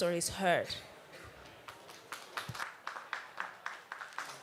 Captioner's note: applause